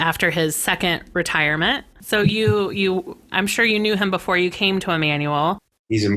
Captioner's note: laughs